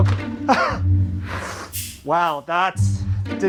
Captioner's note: laugh